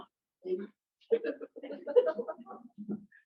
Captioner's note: laughter